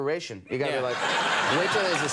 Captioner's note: crowd laughing